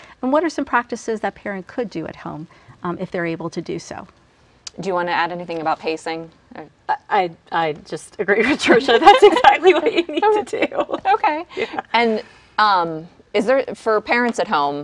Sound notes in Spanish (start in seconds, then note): 8.4 risas